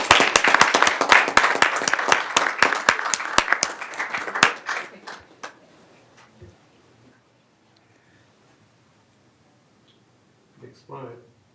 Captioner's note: applause